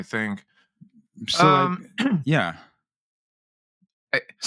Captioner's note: clears Throat